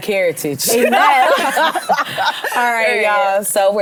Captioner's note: women laugh